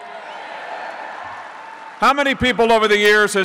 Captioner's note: applause